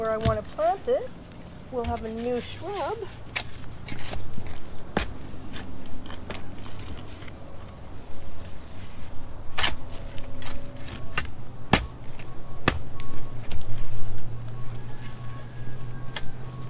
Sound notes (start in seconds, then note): 3.9 digging sounds